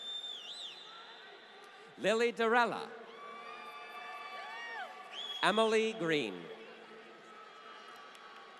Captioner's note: applause